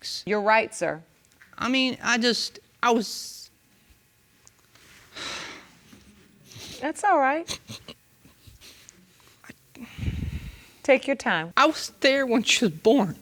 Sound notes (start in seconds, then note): 5.1 sighs; 7.4 sobbing; 9.7 sighs